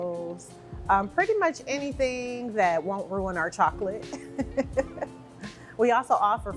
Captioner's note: laughs